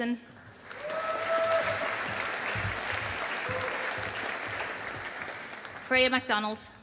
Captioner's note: audience applauding